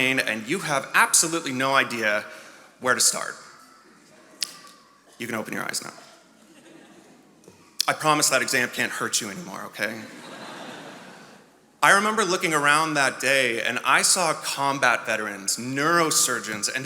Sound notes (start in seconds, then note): 10.0 attendees laughing